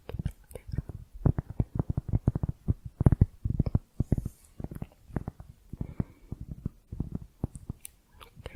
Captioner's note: tapping on cork